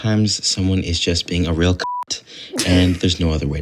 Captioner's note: beep